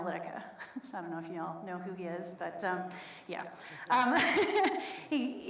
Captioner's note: laughs